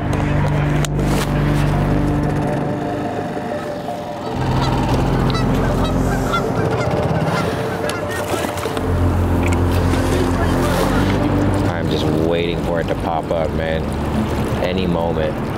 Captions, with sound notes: (boat engine purring) (ducks quacking) I'm just waiting for it to pop up, man, any moment.